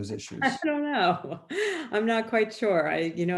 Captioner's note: laughing